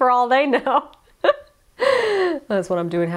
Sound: laughs

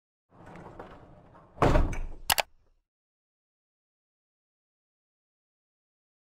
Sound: banging; clicking

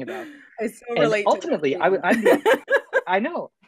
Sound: laughs

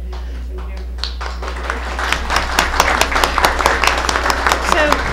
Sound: applause

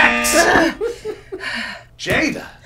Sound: buzzer blares; panting

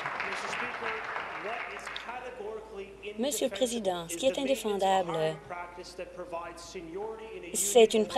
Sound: applause

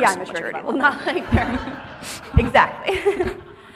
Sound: audience laughing

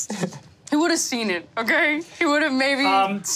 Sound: snickers

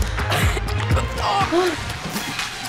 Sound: coughing and groaning

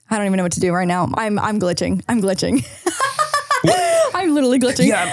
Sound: laughs

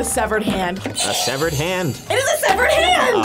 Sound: buzzer rings

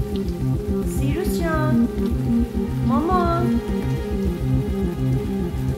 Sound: speaks in foreign language; dramatic orchestral music

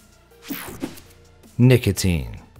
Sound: image whooshing

